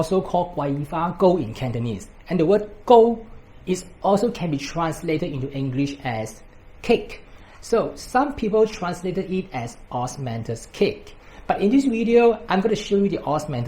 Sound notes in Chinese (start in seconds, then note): 1.8 粤语